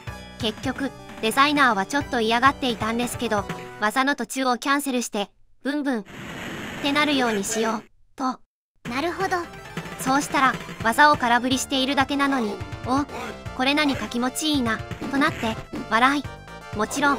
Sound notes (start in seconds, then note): 16.1 laughs